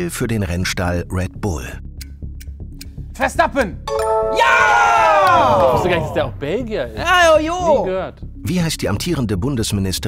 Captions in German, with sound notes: Verstappen. (Klingeln) Jaaa! Ich wusste gar nicht, dass der auch Belgier ist. Nie gehört.